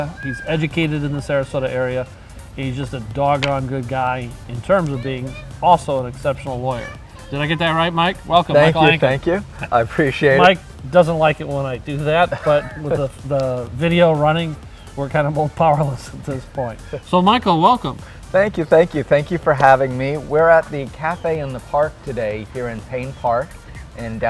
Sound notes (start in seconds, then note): 12.3 laughs